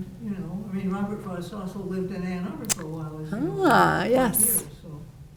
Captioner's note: faintly speaking